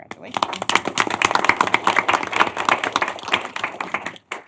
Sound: applause

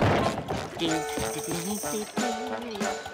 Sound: SpongeBob humming

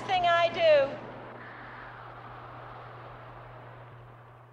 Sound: wind whistles

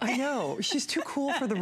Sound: laughter

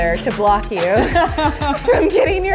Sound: laughing

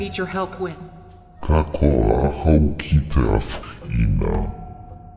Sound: speaking in maori

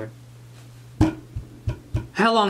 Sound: thumping

